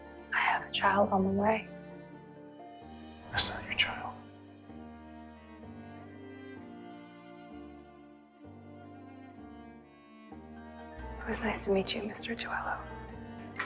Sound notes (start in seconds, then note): 11.4 voiceover